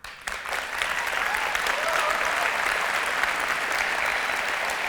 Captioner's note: audience applause